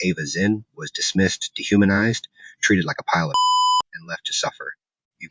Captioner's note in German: Piep